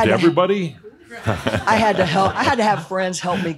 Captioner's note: laughter